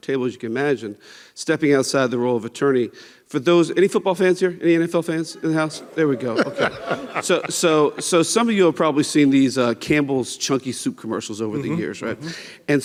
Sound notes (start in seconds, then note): 5.3 laughs; 5.4 audience chatting